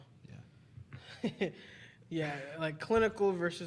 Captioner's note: chuckles